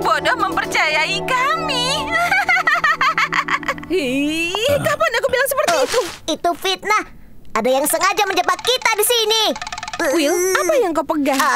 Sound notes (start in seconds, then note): 3.1 cackles; 4.6 grunts